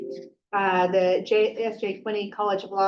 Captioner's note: computer dinging